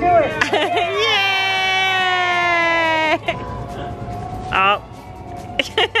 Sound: laughs; all cheer; laughs

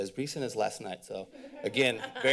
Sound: laughter

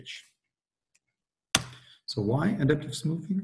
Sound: clicks

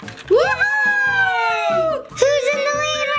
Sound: both cheering

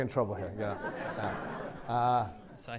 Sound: laughter

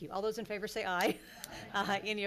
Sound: laughing

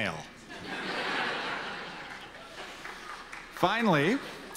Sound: audience laughter

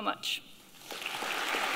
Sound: applause

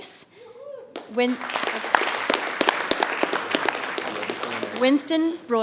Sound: audience applauding

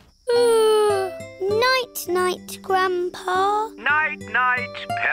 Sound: yawns

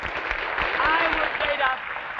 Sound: audience applauding

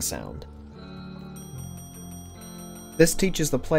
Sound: ding spam

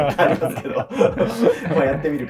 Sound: laughing

